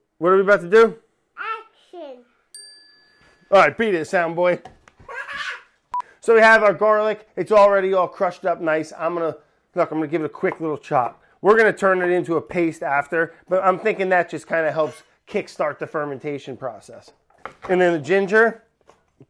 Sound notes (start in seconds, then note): 2.5 bell dinging; 4.8 beeping; 5.0 laughing